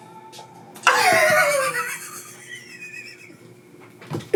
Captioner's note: laughing